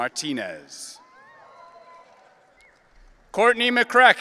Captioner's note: audience cheering